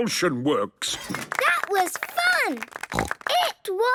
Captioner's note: applause